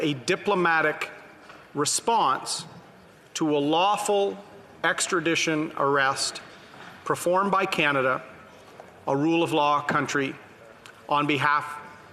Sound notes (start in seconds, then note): none